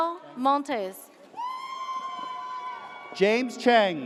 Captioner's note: audience cheers